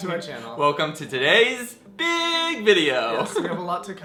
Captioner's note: giggles